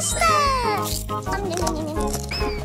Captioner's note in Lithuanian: toliau čepsi